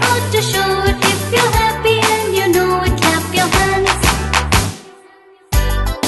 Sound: clap clap

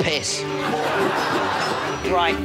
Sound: audience laughs

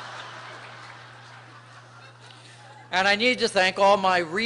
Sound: laughter

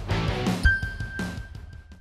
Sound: logo dinging

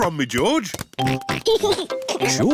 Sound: oinks and giggles

